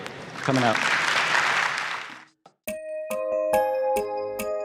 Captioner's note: applause